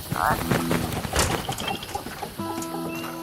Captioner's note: crickets chirping; frogs croaking